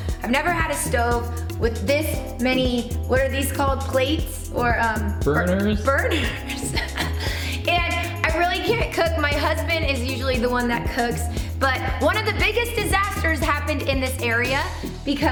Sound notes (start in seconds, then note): 6.1 laughs